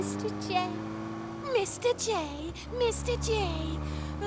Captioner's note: mocking Harley; normal voice